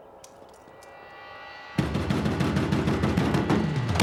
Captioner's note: pounds on the door